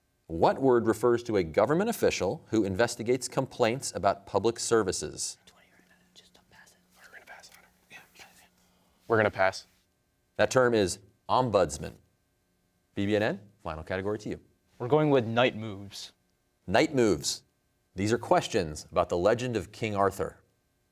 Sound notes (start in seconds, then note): 5.5 team whispering